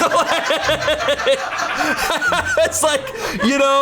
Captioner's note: and colleagues laughing